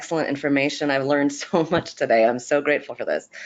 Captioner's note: chuckles